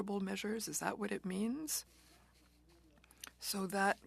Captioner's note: speaking French